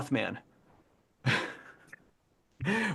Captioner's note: laughs